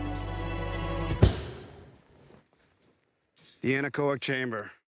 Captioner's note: thud